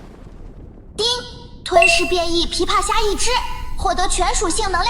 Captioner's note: ding!